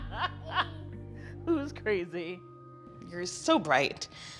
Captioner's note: laughs